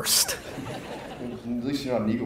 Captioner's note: audience laughs